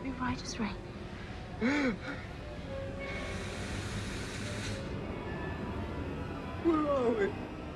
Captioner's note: eerie music; Faraday sobbing